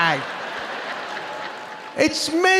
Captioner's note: audience laughing